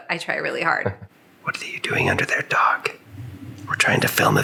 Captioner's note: whispers